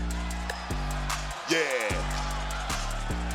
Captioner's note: crowd cheering